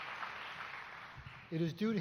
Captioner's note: applause